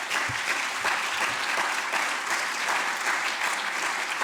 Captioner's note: applause